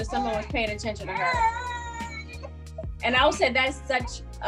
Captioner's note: baby whines